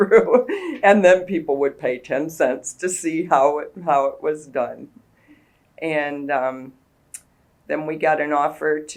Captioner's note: laughs